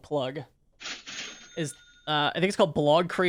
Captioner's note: cash register dings